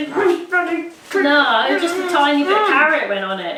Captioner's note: growls